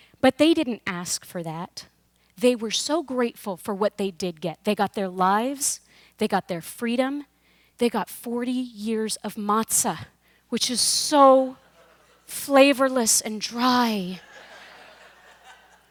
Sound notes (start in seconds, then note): 11.6 audience laughs; 14.2 laughter